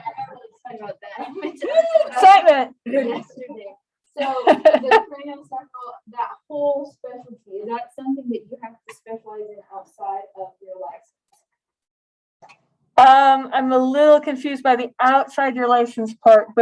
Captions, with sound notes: Sorry, I got a little excited about that. Whoo, excitement. [LAUGHS] So craniosacral, that whole specialty, that's something that you have to specialize in outside of your licensing? I'm a little confused by the outside your license part.